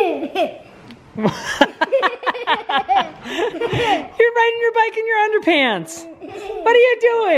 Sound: laughs

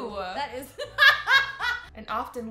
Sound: laughs

